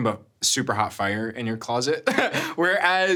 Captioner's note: chuckles